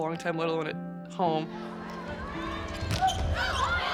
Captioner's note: cheering; whistle blows